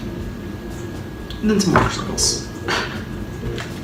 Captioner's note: giggle